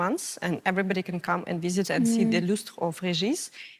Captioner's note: French language